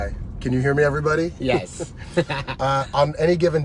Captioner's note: laughs